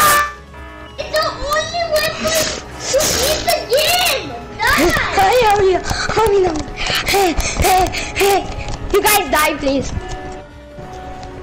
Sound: breaths

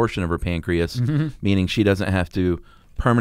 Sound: humming

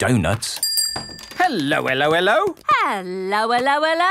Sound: bell rings

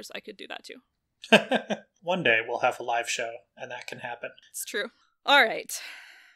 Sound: laughs

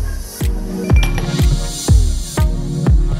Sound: ice tinkling

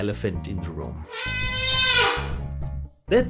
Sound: elephant trumpets

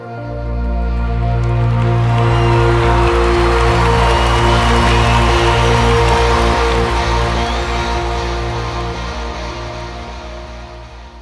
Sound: audience cheers

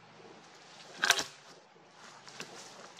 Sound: log falling on more branches

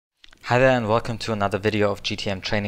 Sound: voiceover

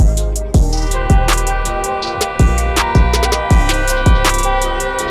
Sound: car blaring horn

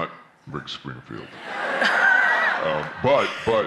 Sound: laughter

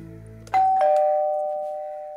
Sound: door bell rings

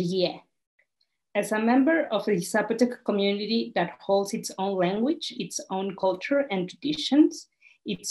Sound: continuing in English

